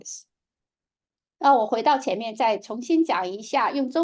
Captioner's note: speaking chinese